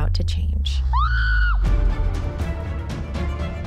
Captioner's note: screams